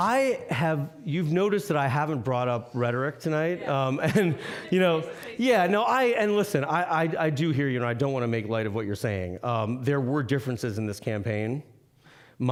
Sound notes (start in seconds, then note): 3.3 laughing